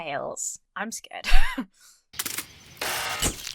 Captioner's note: wheezes; birds chirping; lights buzz